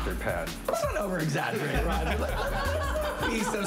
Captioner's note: laughter